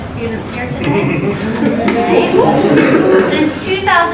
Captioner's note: cheering